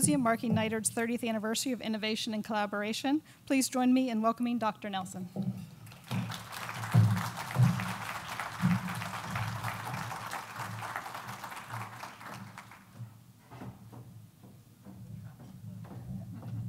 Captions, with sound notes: marking NITRD 30th anniversary of innovation and collaboration, please join me in welcoming Dr. Nelson. (crowd applause)